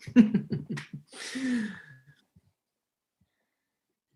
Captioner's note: Helmer Chuckles